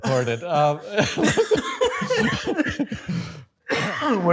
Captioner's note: both laugh